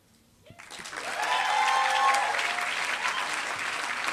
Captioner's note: applause